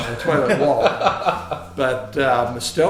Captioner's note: laughing